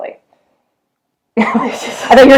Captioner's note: both laughing